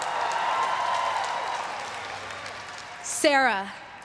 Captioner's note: everyone cheering and applauding